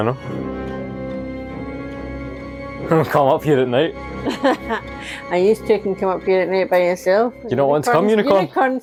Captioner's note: laughter